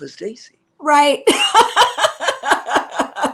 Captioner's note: laughter